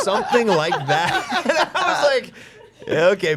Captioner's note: group laughing